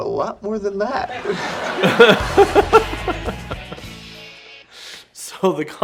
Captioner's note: laugh track and laugh